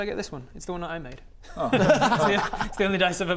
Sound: laughs

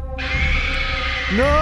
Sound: screeches

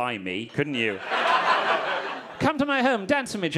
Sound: audience laughing

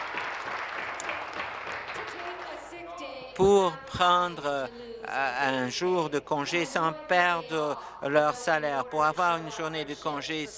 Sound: applause

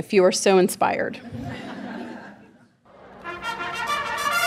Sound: audience laughing

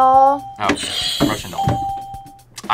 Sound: bell rings

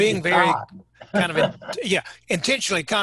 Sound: laughing

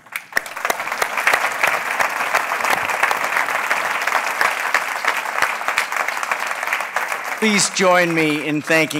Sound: applause

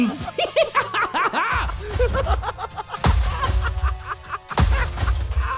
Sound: Batman and Joker laughing

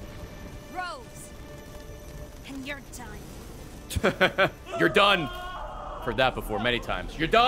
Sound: laughs

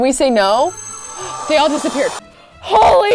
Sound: gasps

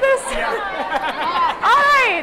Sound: laughter

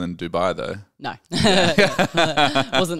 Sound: laughs

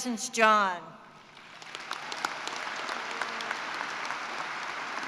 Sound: applause

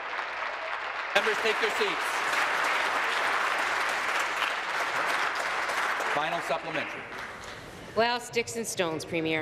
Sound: applause

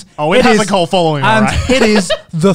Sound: laughs

